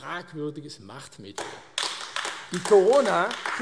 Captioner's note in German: Beifall AfD